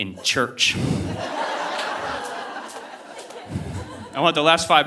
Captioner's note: audience laughing